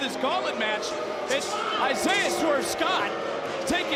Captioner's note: audience booing